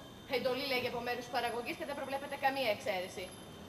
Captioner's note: none